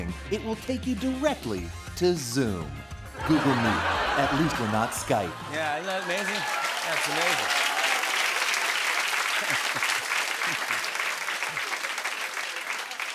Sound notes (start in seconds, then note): 8.2 applause; 9.2 laughs